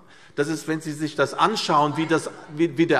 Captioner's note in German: Zurufe DIE LINKE